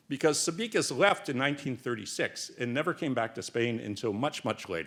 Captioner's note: none